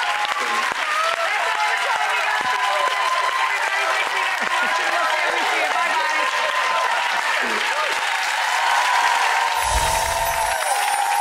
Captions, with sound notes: That's our show, thanks everyone for watching! We'll see you real soon, bye bye! (audience cheering)